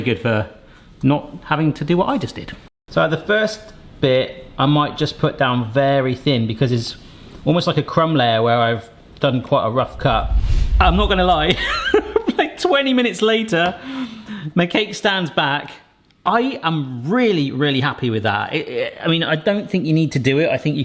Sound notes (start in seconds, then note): 12.0 laughs